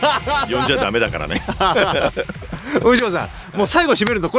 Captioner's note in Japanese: 笑い